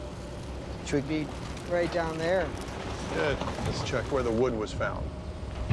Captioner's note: none